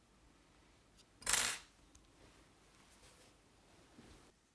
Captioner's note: tool clinks